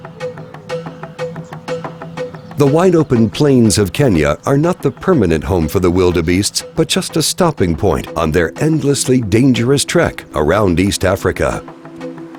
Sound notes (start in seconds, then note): 0.0 upbeat percussion music; 2.8 voiceover